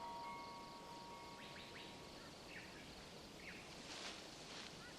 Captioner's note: birds chirping